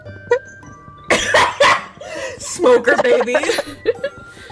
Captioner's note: bursts out laughing